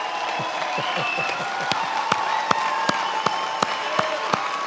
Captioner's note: many applauding